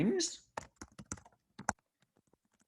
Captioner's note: typing